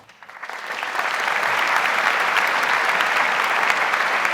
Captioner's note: audience applauds